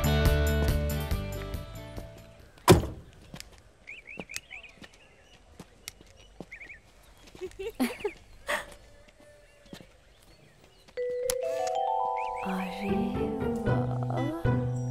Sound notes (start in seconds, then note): 2.6 Door closes; 2.9 Footsteps; 7.2 Laughs